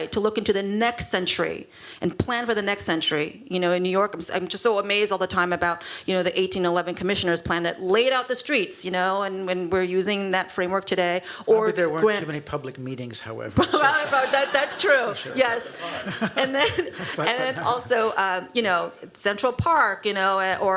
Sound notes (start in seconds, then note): 13.6 laughter